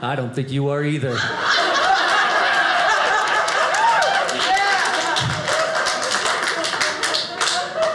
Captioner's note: audience laughing